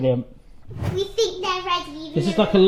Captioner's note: air whooshing